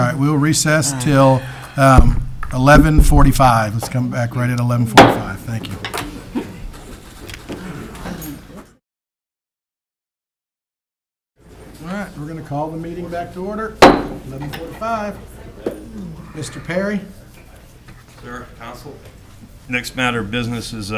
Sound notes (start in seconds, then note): 5.0 gavel taps; 13.8 gavel taps